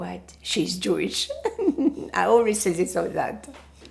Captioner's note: laughing